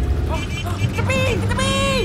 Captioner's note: car honking in panic